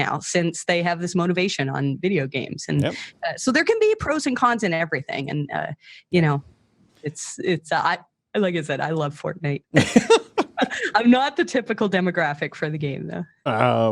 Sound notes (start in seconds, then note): 9.8 laughs